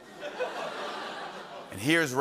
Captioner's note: laughter